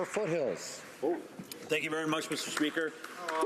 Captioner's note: applause